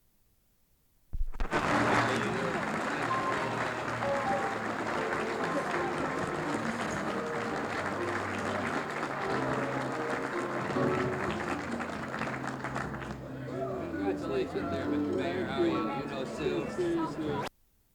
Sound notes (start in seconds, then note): 1.3 applause, music; 17.6 no audio